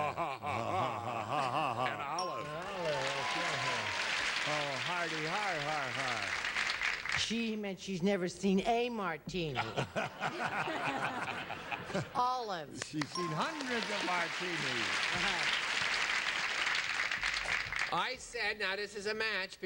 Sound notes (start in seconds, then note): 0.0 both laughing; 2.1 bell dings; 9.6 audience laughs